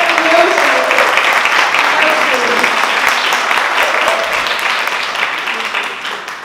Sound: applause

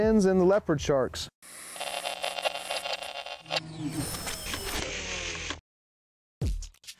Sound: static and mechanical zoom

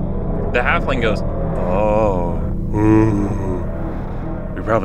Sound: groans Nervously

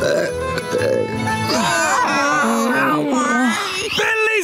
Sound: belching; groaning

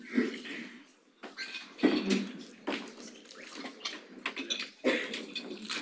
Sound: audience chattering faintly

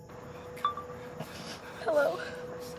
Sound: phone beeps

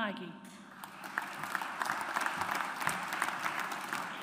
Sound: audience applauds

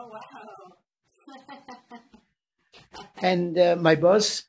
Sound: laughing

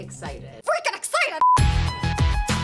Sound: upbeat music; screen beeps

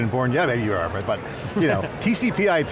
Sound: chuckling

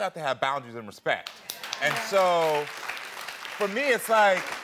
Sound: audience applauds

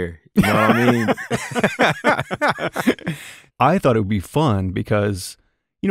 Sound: laughter

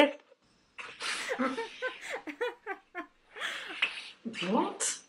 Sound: laughs

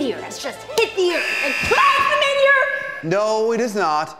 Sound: alarm sounds

